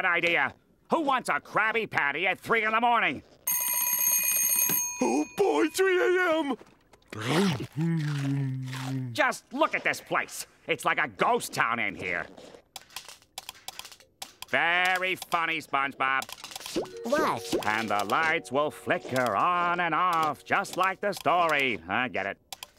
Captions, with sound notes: Who wants a Krabby Patty at 3:00 in the morning?! [dinging] Oh, boy! 3:00 a.m.! Just look at this place. It's like a ghost town in here. [clicking] Very funny, SpongeBob. What? "And the lights will flicker on and off," just like the story. I get it.